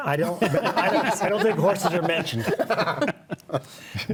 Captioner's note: laughs